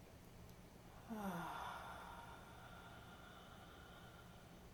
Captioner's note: sighing